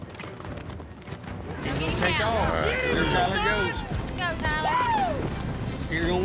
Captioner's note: all shouting